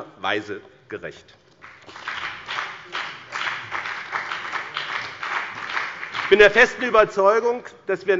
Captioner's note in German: Beifall bei dem BÜNDNIS 90/DIE GRÜNEN und der CDU